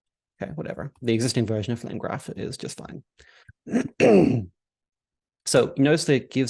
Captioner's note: throat clears